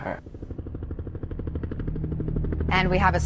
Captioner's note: helicopter blades whirring